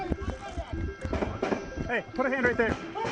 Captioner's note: distant gunfire echoes